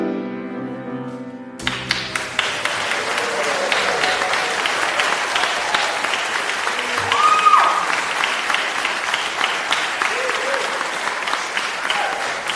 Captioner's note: applause